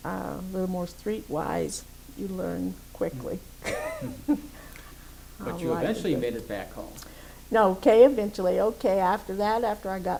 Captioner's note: laughs